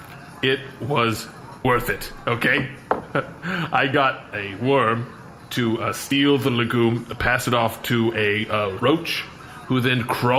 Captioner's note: excited